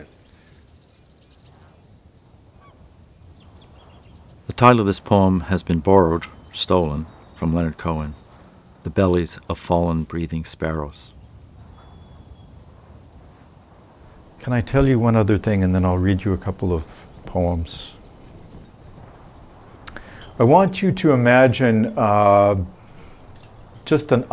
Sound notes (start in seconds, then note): 0.1 bird song; 10.9 bird song; 17.7 bird song continues through next conversation